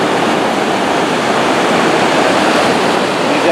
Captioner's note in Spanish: sonido del mar